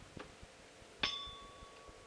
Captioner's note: bell Sound